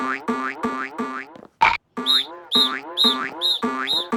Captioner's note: blows whistles repeatedly